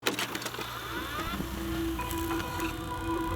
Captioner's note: whirring; stirring music